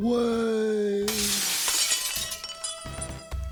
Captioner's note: glass window smashing